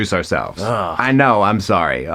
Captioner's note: Jeremy groaning